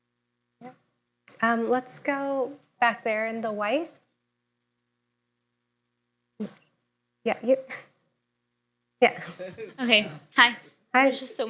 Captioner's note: laughter